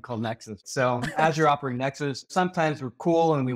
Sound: chuckles

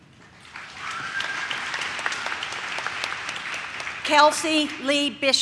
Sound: audience claps

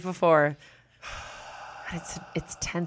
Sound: exhales

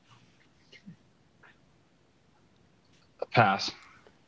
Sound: students whispering

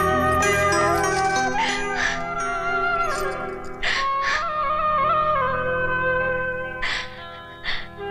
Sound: wailing

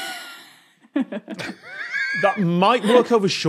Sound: wheezes

